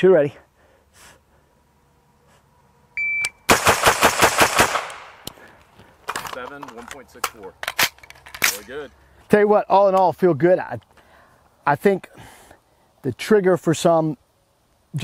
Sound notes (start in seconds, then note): 2.9 beeps; 6.6 voiceover